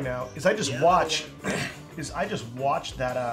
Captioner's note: clears throat